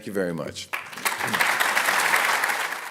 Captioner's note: applause